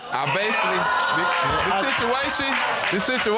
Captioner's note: audience exclaiming